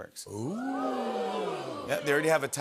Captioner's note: audience "Oohs"